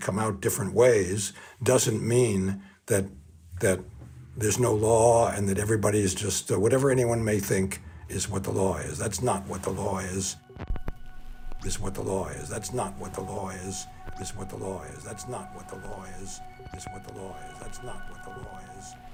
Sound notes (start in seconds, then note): 12.5 record scratch repeating “not what the law is”